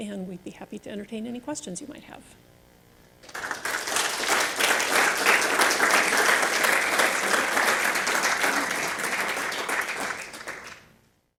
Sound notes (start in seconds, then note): 3.2 audience claps